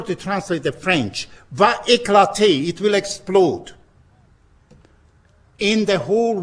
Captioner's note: spoken in french